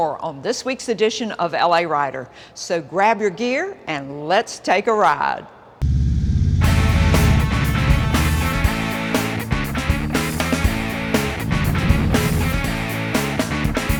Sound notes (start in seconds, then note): 5.9 engines roar; 6.6 upbeat music